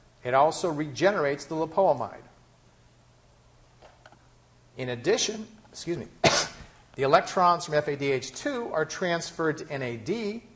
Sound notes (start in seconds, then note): 6.2 coughs